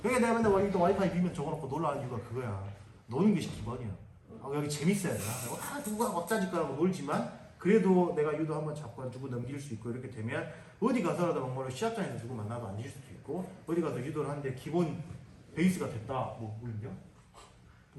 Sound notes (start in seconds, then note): none